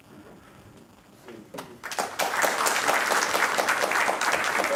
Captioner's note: applause